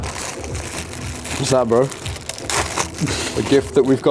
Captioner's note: bag rustling